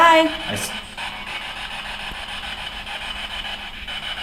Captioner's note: static buzzing